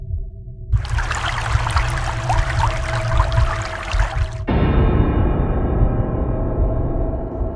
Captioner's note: applause